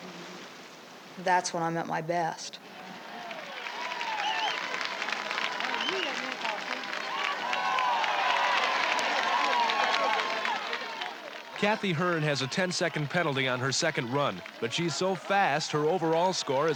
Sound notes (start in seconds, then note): 4.3 cheering